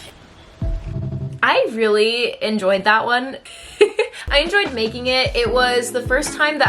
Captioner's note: giggles